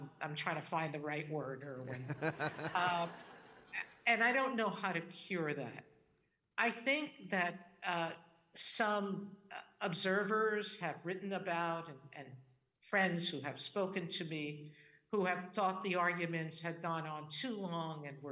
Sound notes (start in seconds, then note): 1.8 laughing; 1.8 audience laughing